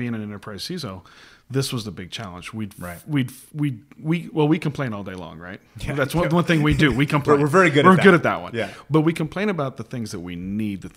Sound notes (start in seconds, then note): 6.3 laughs